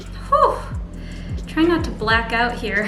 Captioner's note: sighs